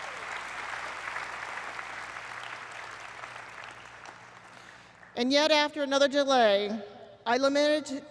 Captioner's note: applause